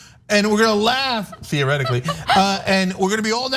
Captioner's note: laugh